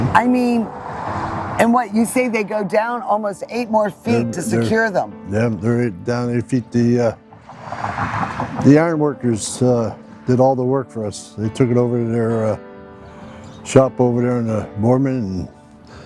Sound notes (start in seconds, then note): 7.2 pat